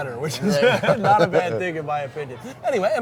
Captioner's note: both laughing